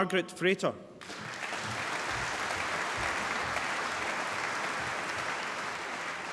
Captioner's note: applause